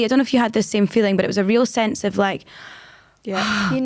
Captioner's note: sigh of relief